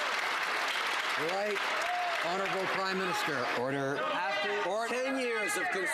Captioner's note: crowd Noise